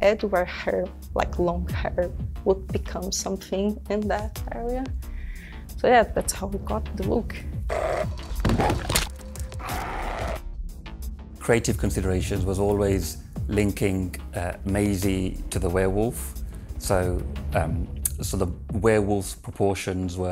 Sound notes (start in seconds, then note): 7.6 wolf growling; 8.1 head smashing; 9.4 wolf growling